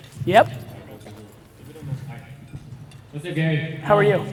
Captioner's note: murmurs